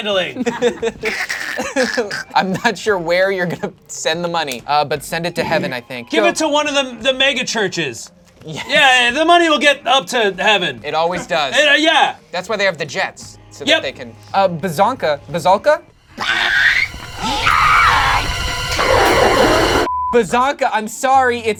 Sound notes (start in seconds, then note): 0.3 laughs; 16.0 Bazanka screeches; 18.3 dramatic music